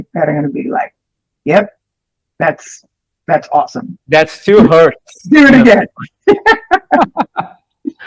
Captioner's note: laughter